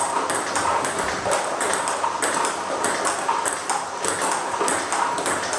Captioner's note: ball ping pong hitting continues